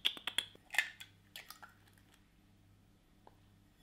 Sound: lip smacking; eggs crack

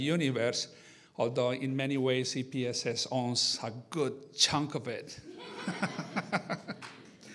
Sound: laughs

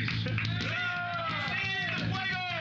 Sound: cheers and applause

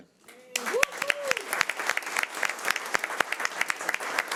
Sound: audience cheering

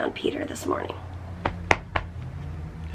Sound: patting sound

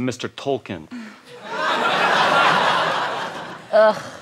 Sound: laughter

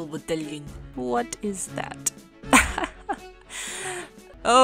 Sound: chuckle

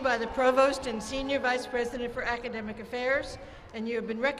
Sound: cheers and applause

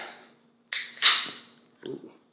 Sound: lid cracks

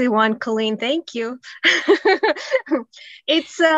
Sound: laughs

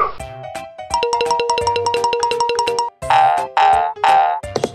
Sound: silly sound effects

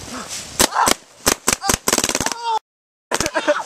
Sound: girlish screams

